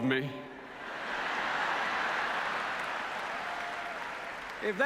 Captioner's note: applause